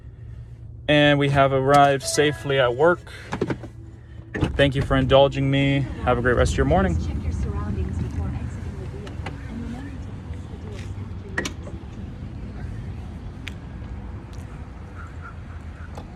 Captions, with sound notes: And we have arrived safely at work. Thank you for indulging me. Have a great rest of your morning. - Please check your surroundings before exiting the vehicle. And remember to close the door after you- (car door closes)